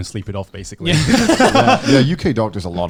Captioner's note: laughing